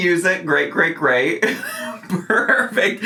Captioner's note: laughs